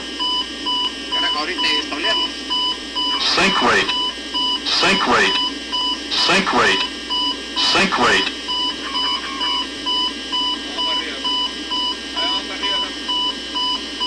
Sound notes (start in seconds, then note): 2.8 GPWS: Sink rate; 5.4 GPWS: Sink rate